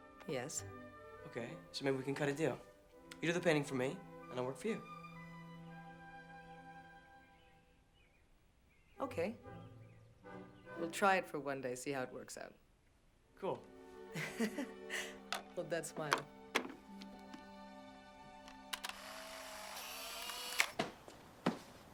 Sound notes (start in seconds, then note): 14.1 laughs; 18.5 camera clicks